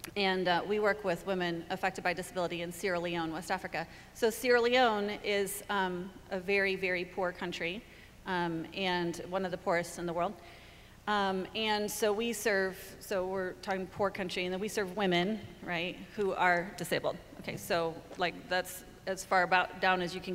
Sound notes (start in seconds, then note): none